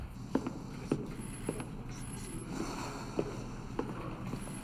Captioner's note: steps clattering